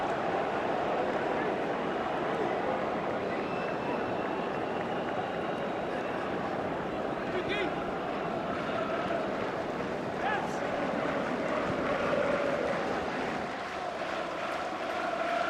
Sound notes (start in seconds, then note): 0.1 auence oohs; 3.4 whistle